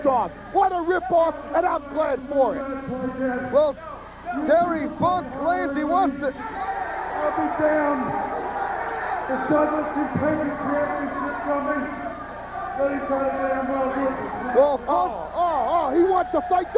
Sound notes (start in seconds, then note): 8.0 crowd cheering